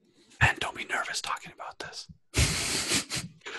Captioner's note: whispers